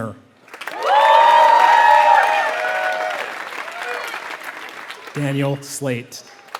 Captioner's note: applause